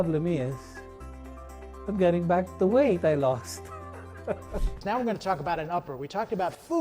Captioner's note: laughs